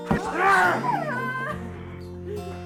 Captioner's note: knife slicing into flesh; Tina sobs